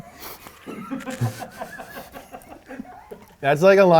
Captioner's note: both laugh